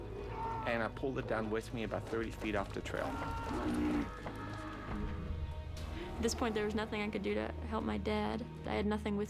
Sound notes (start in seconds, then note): 3.0 screams